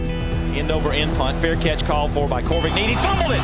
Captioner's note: voiceover